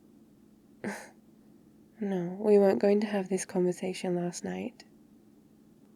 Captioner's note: laughs